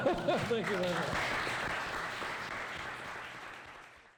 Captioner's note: applause